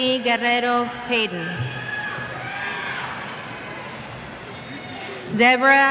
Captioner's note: cheers